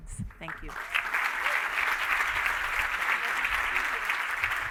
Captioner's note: applause